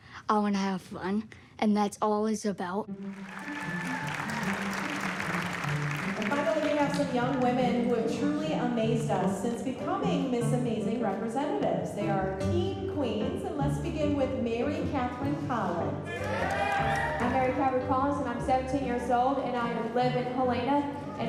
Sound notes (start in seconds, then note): 3.0 applause, cheering; 16.0 cheering